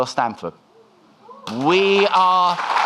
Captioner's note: audience clapping